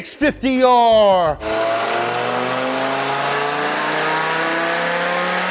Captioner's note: engine revving